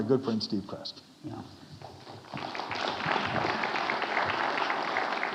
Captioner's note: audience applauding